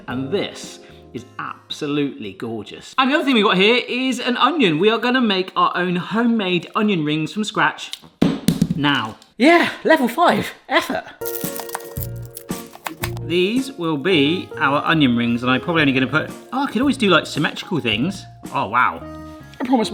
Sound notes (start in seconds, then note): 8.2 onion thuds; 11.3 light quirky music